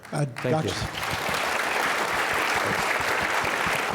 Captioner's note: clapping